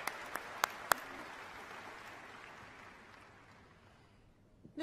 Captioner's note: applause